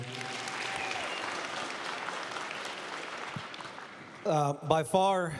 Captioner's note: applause